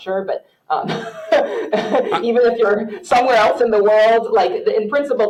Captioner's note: laughs